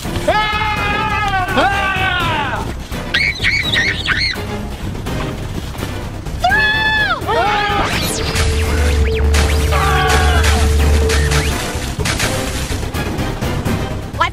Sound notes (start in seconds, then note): 0.1 yelling; 3.0 bellowing; 7.8 whirring; 9.3 splashing